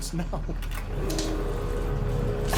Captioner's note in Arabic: قرقرة